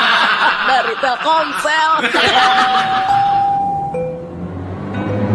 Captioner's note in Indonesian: tertawa